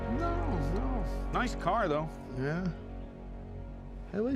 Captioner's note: scottish accent